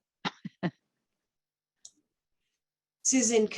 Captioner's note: chuckling